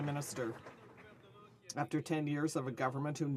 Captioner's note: some Applause